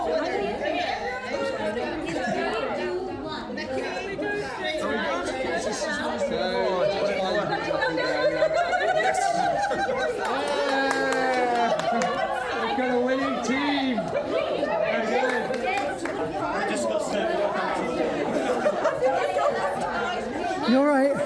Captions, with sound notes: (crowd chattering) (laughing) (clapping) We've got a winning team. (crowd chattering) You all right?